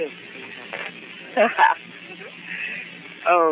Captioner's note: risa